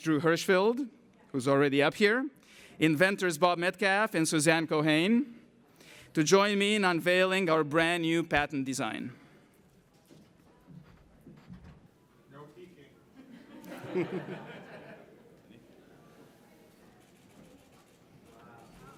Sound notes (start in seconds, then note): 13.1 laughter